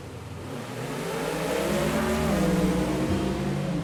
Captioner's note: revving of cars